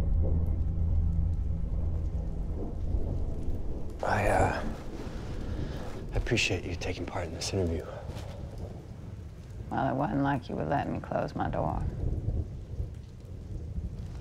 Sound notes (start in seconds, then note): 0.6 rain patters